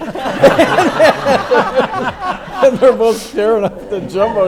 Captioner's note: everyone laughs